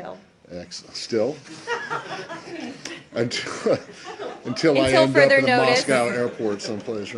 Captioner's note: laughter